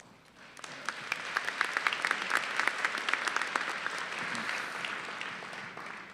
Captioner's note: applause